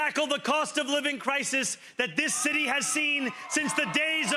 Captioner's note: cheering